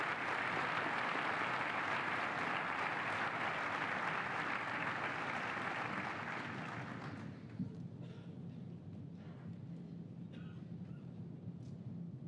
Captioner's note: applause